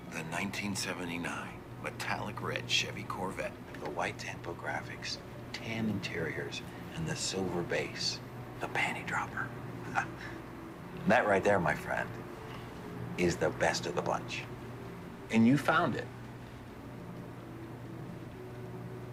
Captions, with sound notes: The 1979, metallic red, Chevy Corvette. With the white tampo graphics, tan interior and the silver base. The panty dropper. (laughing) That right there my friend, is the best of the bunch. And you found it.